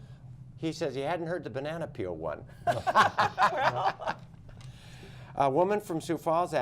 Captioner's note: laughter